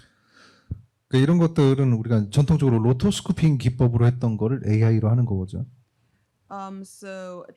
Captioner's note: speaking korean